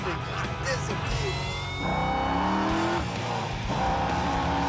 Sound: engine revving

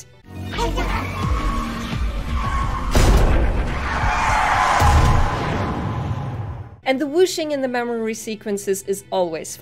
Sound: sounds of a car crash

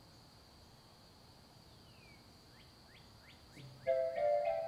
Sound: birds chirping; light piano music

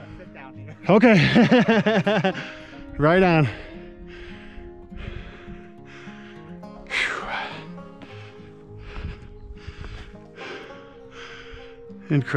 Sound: laughter

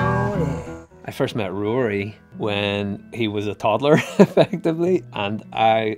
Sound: laughs

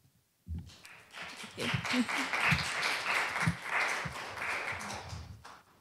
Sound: applause

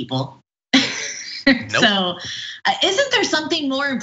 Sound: laugh

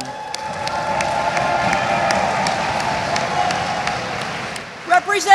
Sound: audience applauds; audience cheers

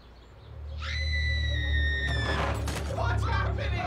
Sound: scream, crashing

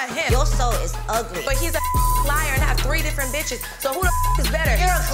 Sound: beep

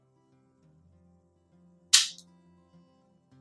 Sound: pop

